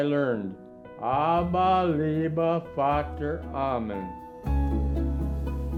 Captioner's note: speaking in German